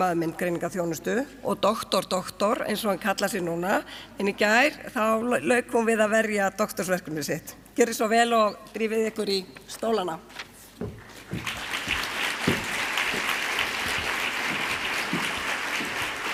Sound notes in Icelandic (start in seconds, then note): 11.6 fagnaðarlæti